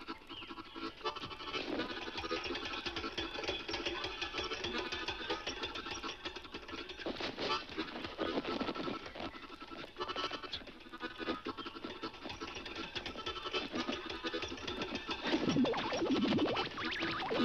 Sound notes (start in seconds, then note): 1.5 bike rattles; 7.0 fabric squeaks